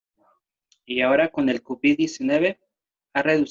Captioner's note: speaking spanish